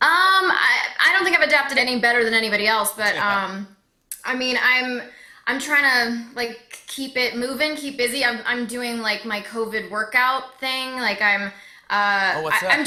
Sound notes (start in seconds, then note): 3.0 chuckling